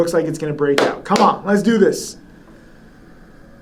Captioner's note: claps